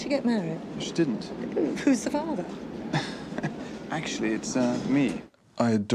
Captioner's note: chuckles